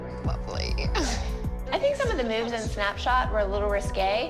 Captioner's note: laughs